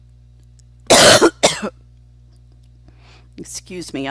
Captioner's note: coughs